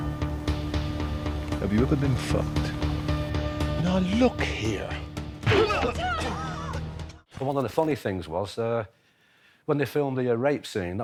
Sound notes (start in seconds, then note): 5.1 malevolent music; 6.7 punch thuds